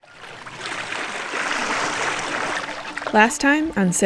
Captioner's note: water gurgles